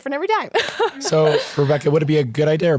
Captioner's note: laughing